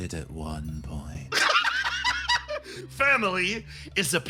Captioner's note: laugh